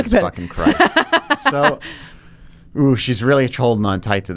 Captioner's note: laughing